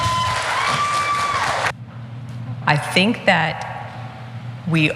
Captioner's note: applause